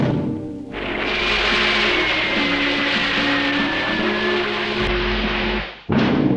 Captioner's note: reverent music; fireworks whistling; dramatic music